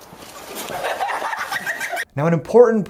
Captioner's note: laughter